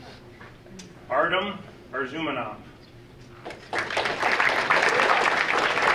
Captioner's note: audience applauding